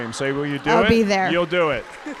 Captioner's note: audience applauding